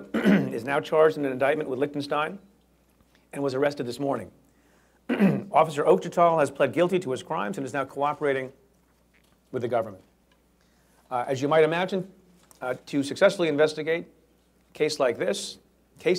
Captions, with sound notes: (clears throat) is now charged in an indictment with Lichtenstein, and was arrested this morning. (clears throat) Officer Ochetal has pled guilty to his crimes and is now cooperating with the government. Uh, as you might imagine, uh, to successfully investigate a case like this -